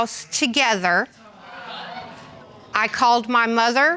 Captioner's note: audience exclaims